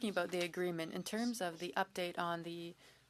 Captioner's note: speaking French